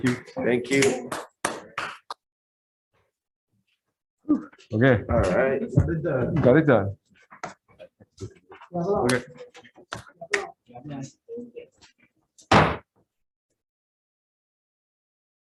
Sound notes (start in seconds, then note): 0.7 scattered clapping; 9.4 indistinct conversation; 13.0 gavel bangs